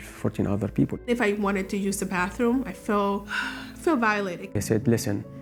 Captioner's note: sighs